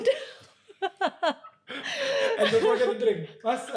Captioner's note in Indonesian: tertawa